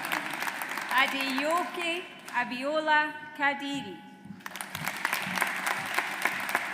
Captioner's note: audience applauds